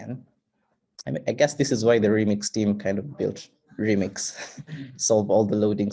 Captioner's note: chuckles